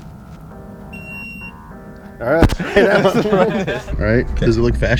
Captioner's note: beeps; playful music